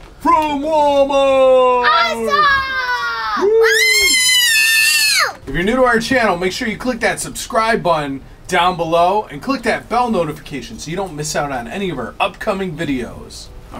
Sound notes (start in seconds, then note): 3.5 cheering; 3.5 screaming